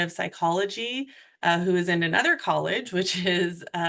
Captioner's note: chuckles